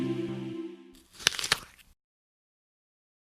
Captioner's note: crunch